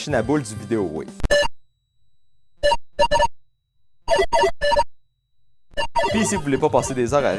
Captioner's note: 8-bit pinball noises